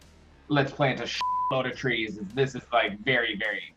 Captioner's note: beep